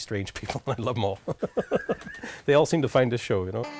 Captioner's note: laughter